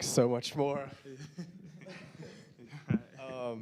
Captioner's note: panelists laughing; laughing